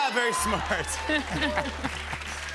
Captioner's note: both laugh